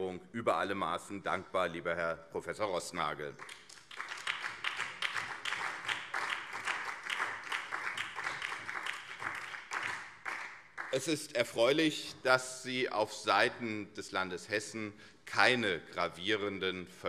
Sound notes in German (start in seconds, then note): 3.3 Beifall CDU, SPD und BÜNDNIS 90/DIE GRÜNEN